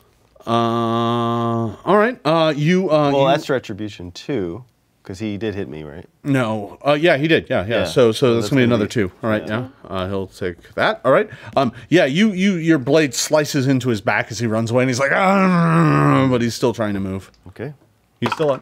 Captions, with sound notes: - All right. - Well that's Retribution two, cause he did hit me, right? - No, oh, yeah, he did. So that's gonna be another two, all right, yeah. He'll take that, all right. Yeah, your blade slices into his back as he runs away and he's like (growls) but he's still trying to move.